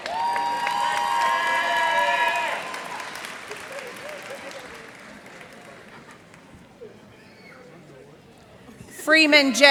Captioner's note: cheers and applause